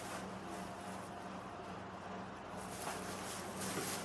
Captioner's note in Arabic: حفيف الورق